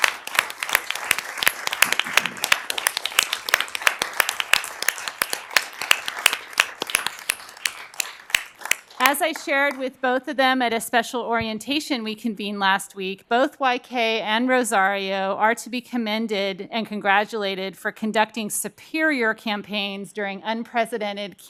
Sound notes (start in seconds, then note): 4.3 cheering and applause